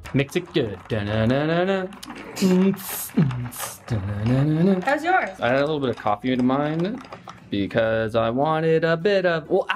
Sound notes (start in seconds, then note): 1.0 humming song